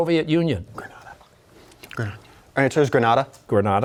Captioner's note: whispering